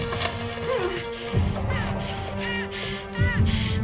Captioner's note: glass shattering; Susan grunts